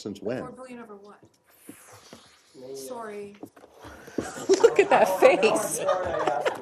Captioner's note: laughter